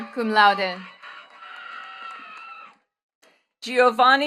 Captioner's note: attendees cheering and clapping